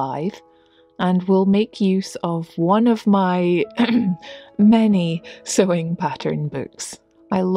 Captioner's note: cough